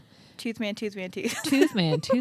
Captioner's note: laughing